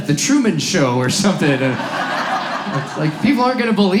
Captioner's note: audience laughs